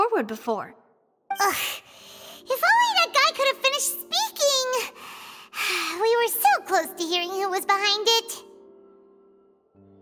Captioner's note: sigh